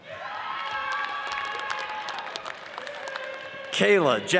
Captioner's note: audience cheers and applauds